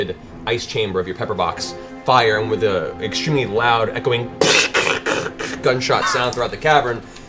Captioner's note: gun noise